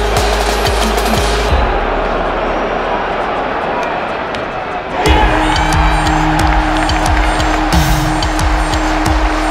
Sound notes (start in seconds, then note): 4.7 cheering